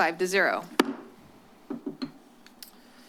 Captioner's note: bangs